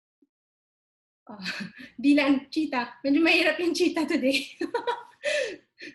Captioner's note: laughs